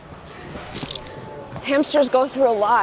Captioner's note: squelches